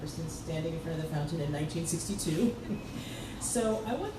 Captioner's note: laughs